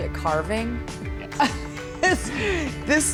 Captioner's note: laughing